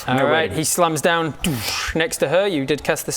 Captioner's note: doosch